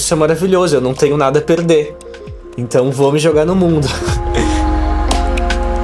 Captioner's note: laughs